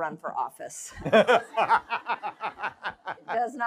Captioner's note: laughter